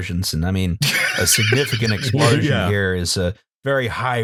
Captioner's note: laughter